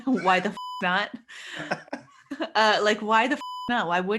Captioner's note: both laughing